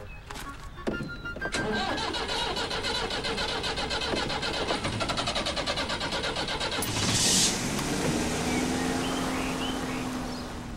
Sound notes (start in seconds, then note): 1.1 sound of car trying to start; 6.4 car starts